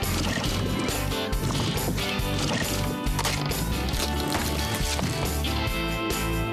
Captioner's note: tapping; splat! Splat! Splat!